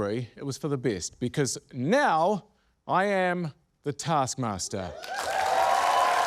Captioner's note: cheering, applause